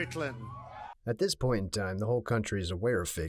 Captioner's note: cheering